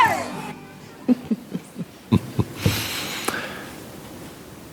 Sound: group laughing

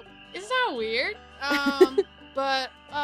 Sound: giggles

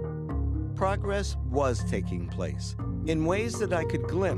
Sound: voiceover

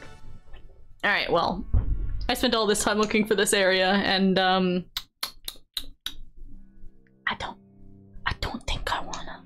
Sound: clicks tongue

